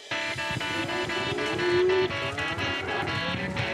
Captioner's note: cattle moo